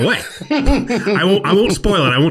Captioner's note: laughs